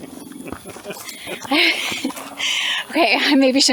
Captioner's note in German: Gelächter